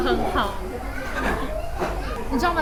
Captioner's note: laugh